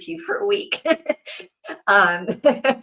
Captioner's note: laughs